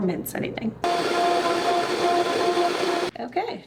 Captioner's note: blender whirring